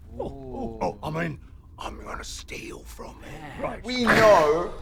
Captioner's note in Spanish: susurra